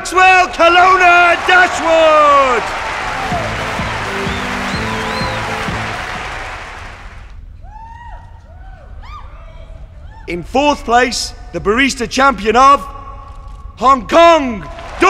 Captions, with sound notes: (cheers and applause) In fourth place, the barista champion of Hong Kong, Chan Kwun Ho!